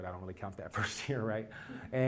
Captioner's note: laugh